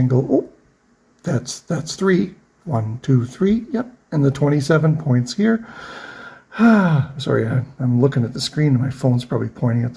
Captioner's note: sighs